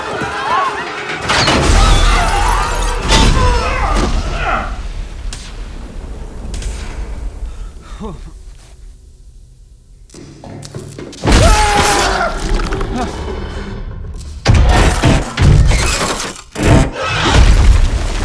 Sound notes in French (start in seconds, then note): 4.7 Électricité crépitant